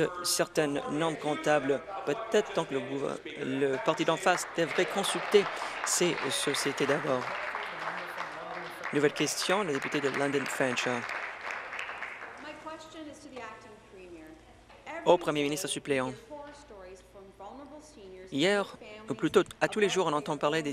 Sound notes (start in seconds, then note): 9.1 applause